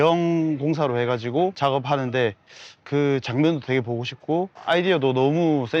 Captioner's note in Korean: 콧방귀